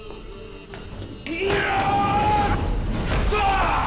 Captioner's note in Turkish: Haykırma sesi